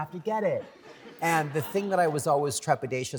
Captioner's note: laughter